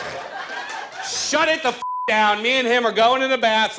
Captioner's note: audience laughs; beep